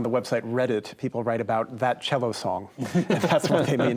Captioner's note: all chuckle